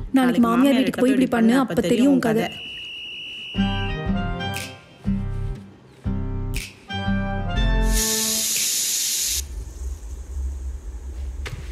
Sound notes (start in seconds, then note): 7.9 cooker whistles again